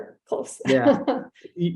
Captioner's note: chuckles